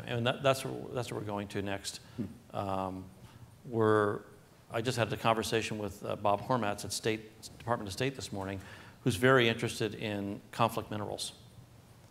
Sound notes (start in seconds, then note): none